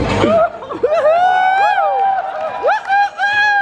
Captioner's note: crowd cheers